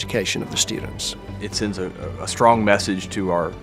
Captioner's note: voiceover